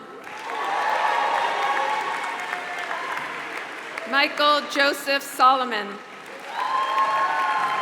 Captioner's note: applause